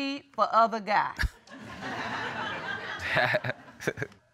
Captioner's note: all laughing